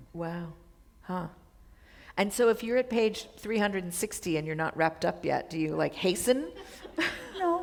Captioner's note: chuckle